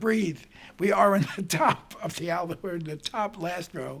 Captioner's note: chuckling